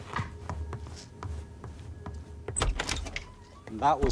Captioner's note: shoes clacking